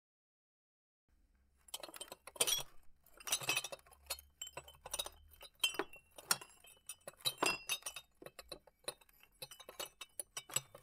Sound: sound of glass rattle

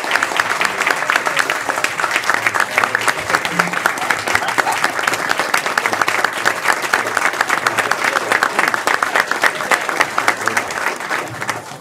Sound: applause

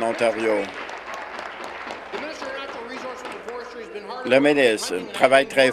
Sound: cheering; applause

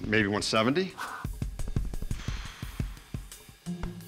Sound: blows air

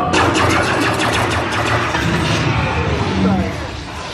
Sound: intense music; shooting

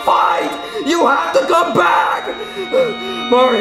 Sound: panting

